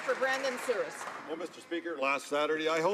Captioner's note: some Applause